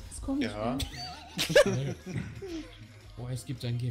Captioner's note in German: Lachen